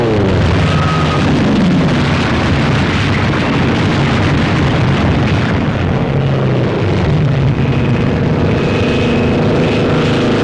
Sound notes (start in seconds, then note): 0.2 explosions